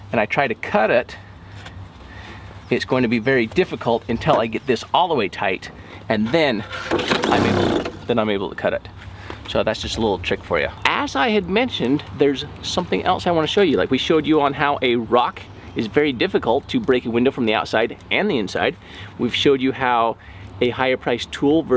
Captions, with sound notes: and I try to cut it, it's going to be very difficult until I get this all the way tight, and then, (seatbelt rolling) then I'm able to cut it. So that's just a little trick for you. As I had mentioned, there's something else I want to show you. Like we showed you on how a rock is very difficult to break a window from the outside and the inside. We've showed you how a higher price tool